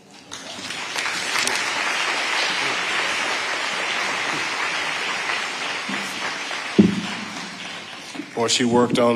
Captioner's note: audience applauding